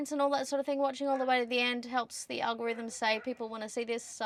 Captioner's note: woof; ruff, woof; ruff-ruff, woof